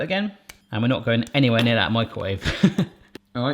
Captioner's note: laughs